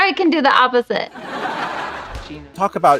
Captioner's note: laughing